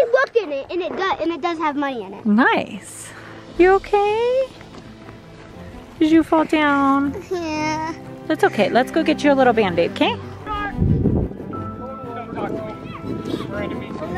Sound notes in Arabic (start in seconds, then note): 7.5 أنين; 11.0 ثرثرة في الخلفية